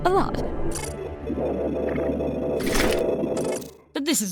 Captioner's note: robotic glitching